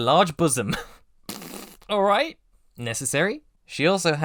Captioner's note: laughs